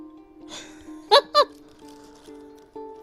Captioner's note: laughs